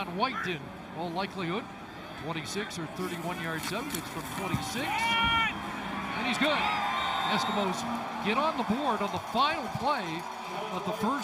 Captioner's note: whistle